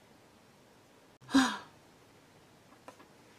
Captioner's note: le sigh